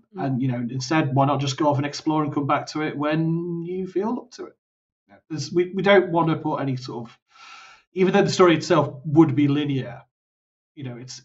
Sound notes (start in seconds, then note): none